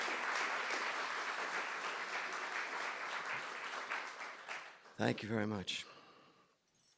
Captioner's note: applause